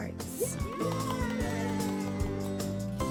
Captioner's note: applause